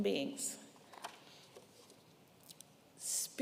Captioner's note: paper rustling